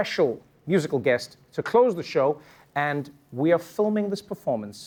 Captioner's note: none